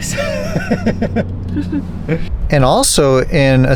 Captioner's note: laughs